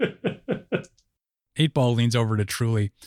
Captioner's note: laughter